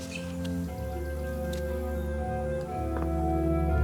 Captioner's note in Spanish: none